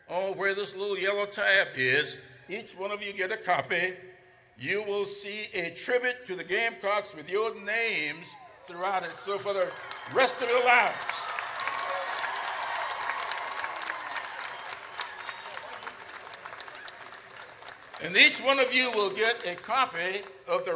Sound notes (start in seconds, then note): 10.9 audience cheers